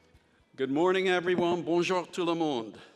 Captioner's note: speaking in foreign language